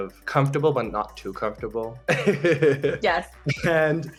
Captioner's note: laughs